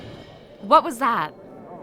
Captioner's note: crash